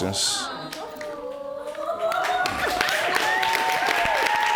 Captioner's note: applause